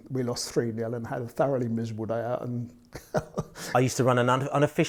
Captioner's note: laughs